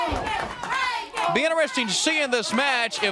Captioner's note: crowd cheering